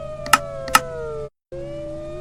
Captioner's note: click, Click